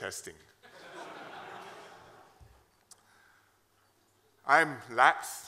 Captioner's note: laughter